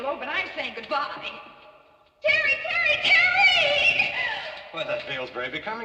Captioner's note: screaming